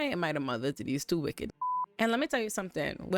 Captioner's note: beep